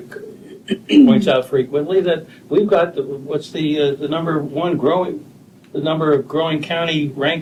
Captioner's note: clears throat